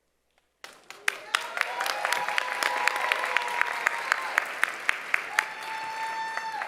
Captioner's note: applause, cheering